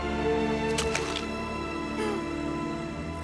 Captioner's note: grunts